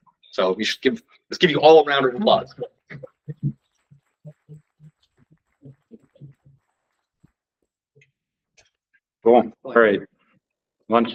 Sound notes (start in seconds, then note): 2.7 silence